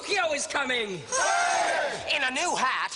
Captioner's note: cheers